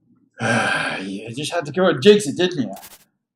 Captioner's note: sighs disgustedly